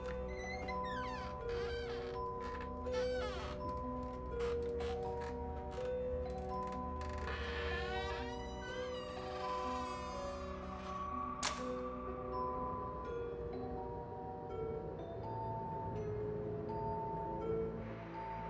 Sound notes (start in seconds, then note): 6.3 door squeaking; 9.9 mystical music